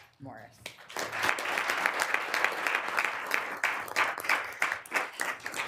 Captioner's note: applause